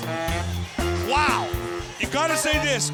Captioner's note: crowd cheering